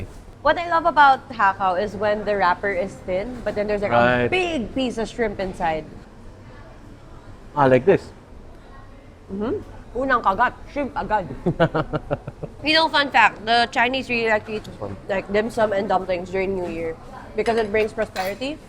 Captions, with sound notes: - What I love about hakao is when the wrapper is thin, but then there's like a big piece of shrimp inside. - Ah, like this. - First bite, you immediately get shrimp. (laughs) You know, fun fact, the Chinese really like to eat like dim sum and dumplings during New Year, because it brings prosperity.